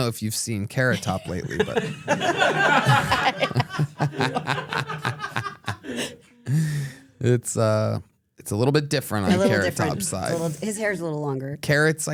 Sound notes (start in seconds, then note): 0.9 everyone laughs